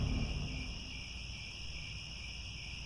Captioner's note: crickets